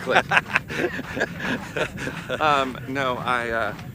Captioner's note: laughs